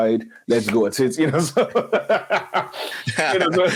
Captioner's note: laughs